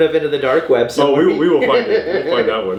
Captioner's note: laughing